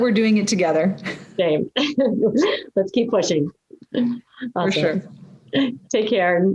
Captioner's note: laugh